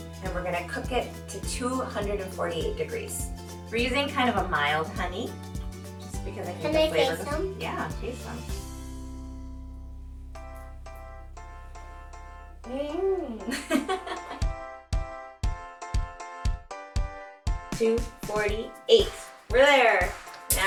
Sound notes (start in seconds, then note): 10.5 upbeat music continues; 13.2 laughing